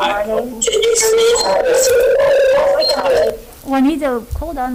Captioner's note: loud feedback from Juanita's computer